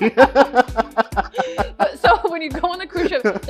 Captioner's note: laughing